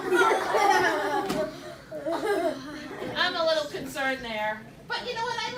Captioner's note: laughter